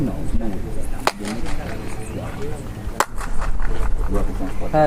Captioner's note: claps, followed by seven echoes